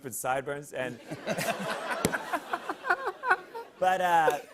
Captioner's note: laughter